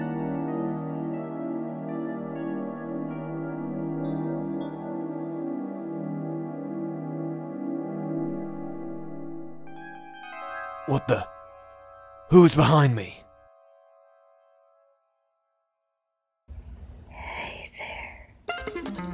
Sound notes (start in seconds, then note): 17.4 whispers